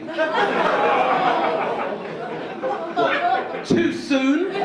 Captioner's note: audience laughing